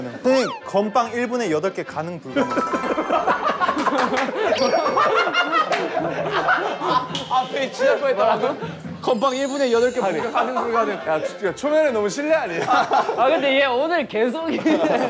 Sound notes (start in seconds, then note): 3.0 bursting out into laughter